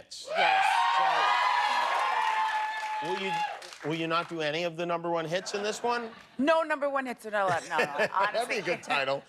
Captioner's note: cheers and applause